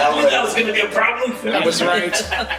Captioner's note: chatter and laughter